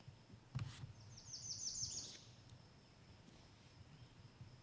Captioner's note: birds chirping